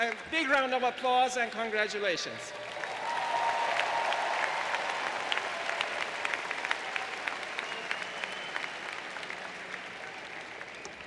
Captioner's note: applause